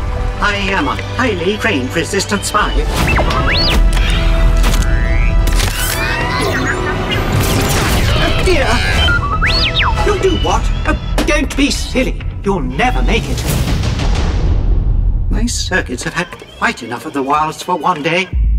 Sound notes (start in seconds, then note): 3.0 beeping; 3.9 electronic whirring; 6.4 beeping; 9.1 beeping; 13.5 dramatic music